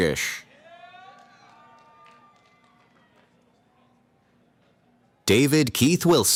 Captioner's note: cheering